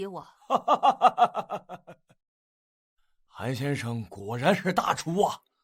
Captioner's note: laughs